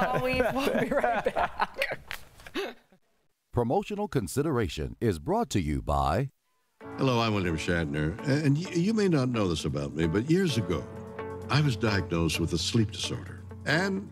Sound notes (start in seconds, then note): 2.3 laughter